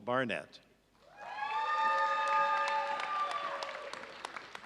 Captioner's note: audience cheering